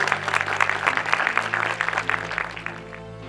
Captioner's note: audience applauding